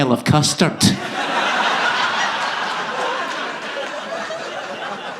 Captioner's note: audience laughing